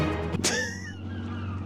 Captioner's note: laughs